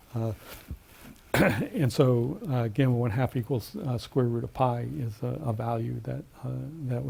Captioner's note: cough